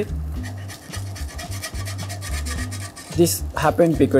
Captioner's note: spatula scraping